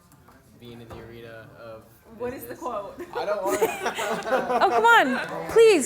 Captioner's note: laughing